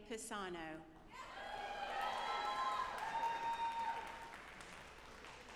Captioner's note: audience applauding